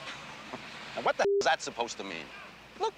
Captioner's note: scoffs